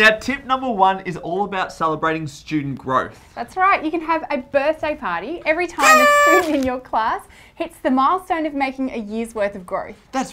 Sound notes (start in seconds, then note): 5.8 horn blowing